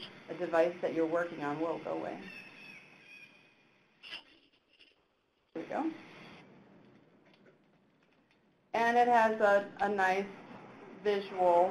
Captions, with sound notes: on a device that you're working on. Whoa, go away. (bird squawking) There we go. And it has a nice visual,